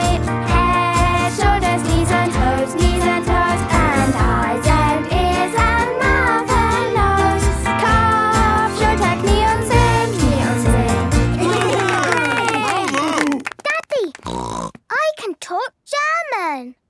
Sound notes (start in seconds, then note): 7.4 singing in German; 11.3 cheering; 14.2 snorting